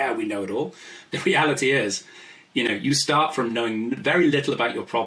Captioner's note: laughs